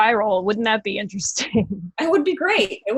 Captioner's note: chuckling